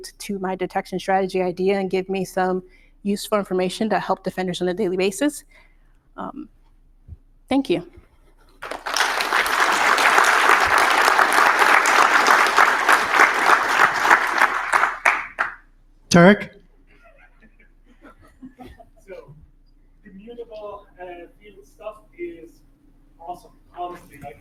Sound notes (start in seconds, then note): 8.6 crowd clapping